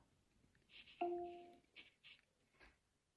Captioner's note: device chimes